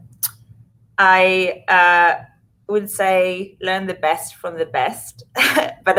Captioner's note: laughs